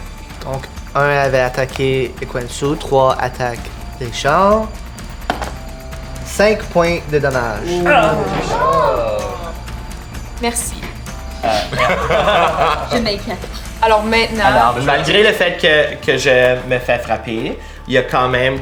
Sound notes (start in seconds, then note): 11.3 laugh